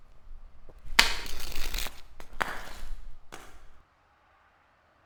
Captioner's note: flashlight clatters